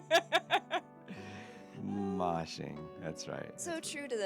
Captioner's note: laughing